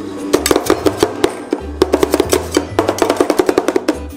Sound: spatula chopping

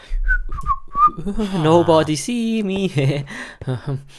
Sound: wistling

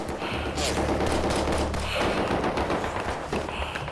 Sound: gun banging

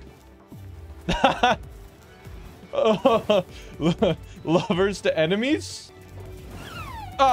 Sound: laughing

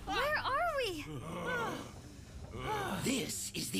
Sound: all panting

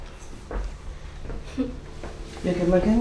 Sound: little laugh

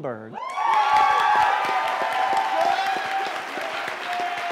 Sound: applause

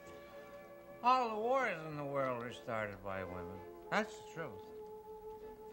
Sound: father, slurring

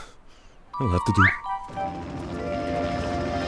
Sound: helicopter whirring

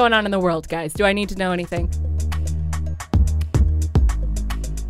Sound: voiceover

